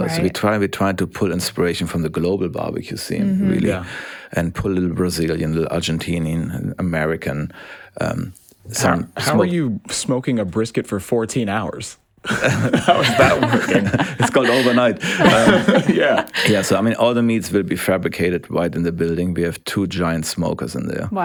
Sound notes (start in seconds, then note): 12.2 all laugh; 15.7 laughs